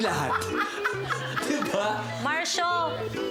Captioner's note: laughing